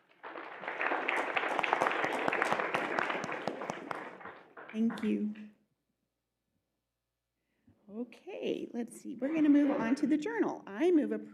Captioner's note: applause